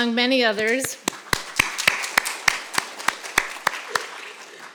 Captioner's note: audience applauding